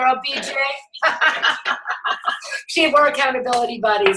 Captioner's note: laughs